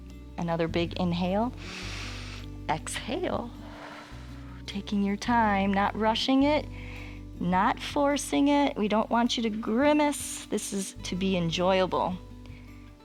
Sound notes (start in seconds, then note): 1.6 inhales; 1.6 exhales